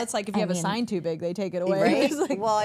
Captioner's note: laughs